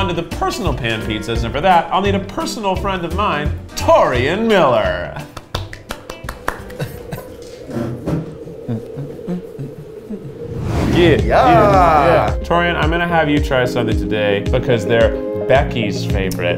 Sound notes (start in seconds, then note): 5.2 claps; 7.2 wind blows